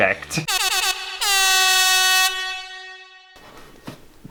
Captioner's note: air horn!!